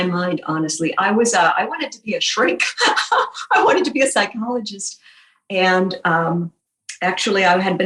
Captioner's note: laughing